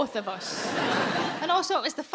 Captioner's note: audience laughing